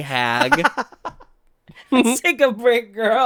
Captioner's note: laughs